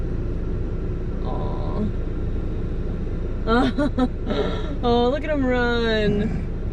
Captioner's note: laughing